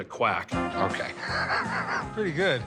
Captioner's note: chuckles